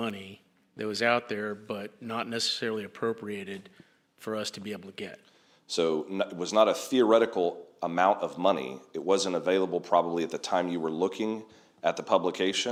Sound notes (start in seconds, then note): none